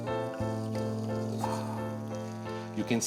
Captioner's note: happy piano music; sauce bubbling